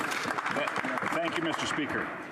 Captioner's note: applause